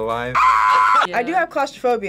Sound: screams

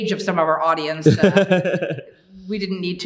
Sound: laughing

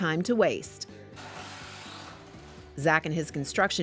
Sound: whirring

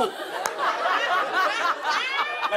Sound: laughter

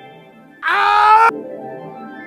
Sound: Spy TF2 Scream

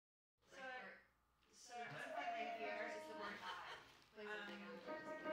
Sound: background chatter in recording studio; piano playing

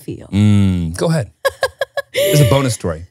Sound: laughing

